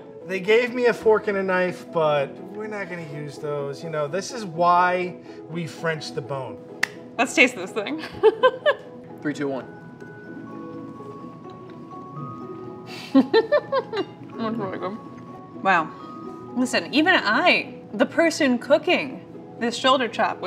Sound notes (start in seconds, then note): 8.1 laughs; 13.0 laughs